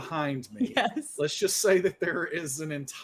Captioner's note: laughing